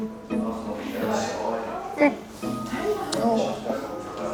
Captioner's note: people chattering